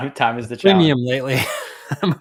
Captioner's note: laughs